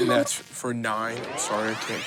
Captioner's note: computer beeps; engine powering up